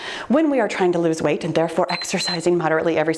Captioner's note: timer beeps